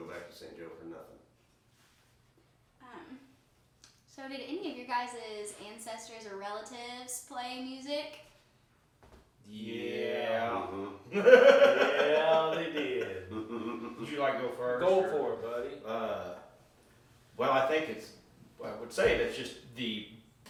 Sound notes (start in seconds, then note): 11.1 laughing